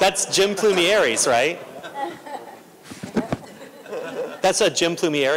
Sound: laughter

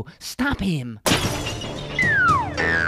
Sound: glass smash; spring boing

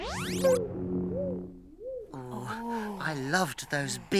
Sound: poofs

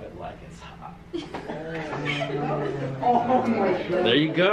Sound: students laughing

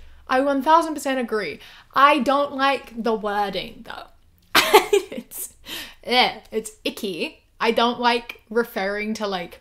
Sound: laughs

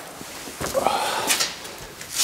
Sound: he groans

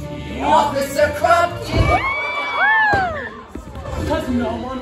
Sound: cheers

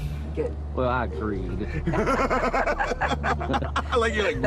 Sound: laughter

